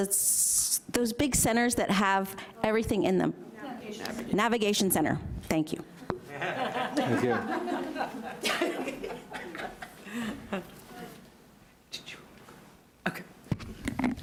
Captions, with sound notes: Those big centers that have everything in them. (overlapping chatter) Navigation Center, thank you. (audience laughs) - Thank you. (audience laughs) - Did you want to go, okay.